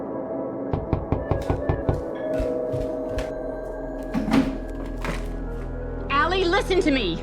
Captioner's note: fist knocking; doorbell ringing